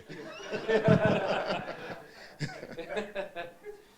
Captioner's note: all laughing